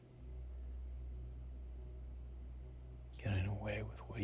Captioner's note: crickets chirping; tense music